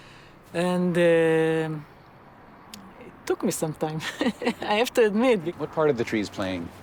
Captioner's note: laughs